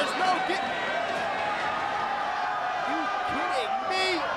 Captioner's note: spectators cheering